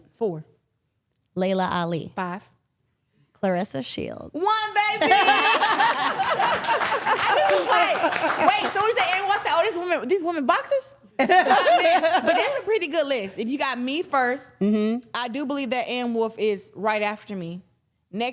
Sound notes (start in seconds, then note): 4.7 everyone laughing and clapping